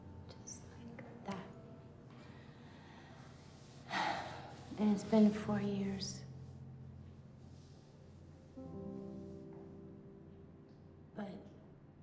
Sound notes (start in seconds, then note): 1.5 fingers snapping; 3.9 Betsy sighs